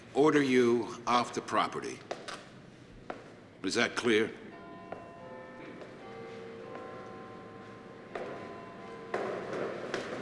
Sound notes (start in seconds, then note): 4.9 clock tolling